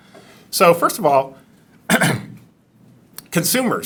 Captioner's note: clears throat